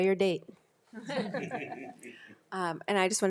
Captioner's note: group laughs